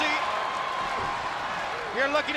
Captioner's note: spectators cheering